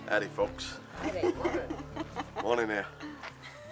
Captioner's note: laugh